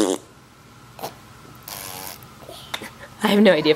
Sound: spitting

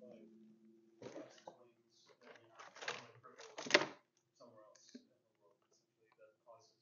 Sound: faintly speaking

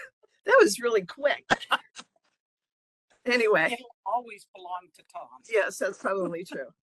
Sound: laughing

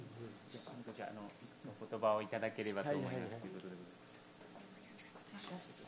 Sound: speaking in foreign language

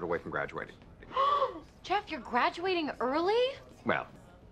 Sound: ANNIE and SHIRLEY gasp

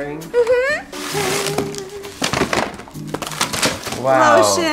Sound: boxes clattering

